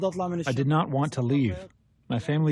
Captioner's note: through translator